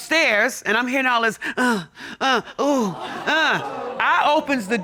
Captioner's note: imitates moaning